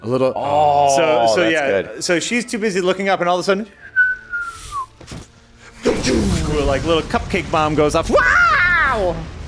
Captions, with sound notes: - A little, oh, that's good. - So she's too busy looking up, and all of a sudden, (whistling) (imitating explosion) like a little cupcake bomb goes off. Wow!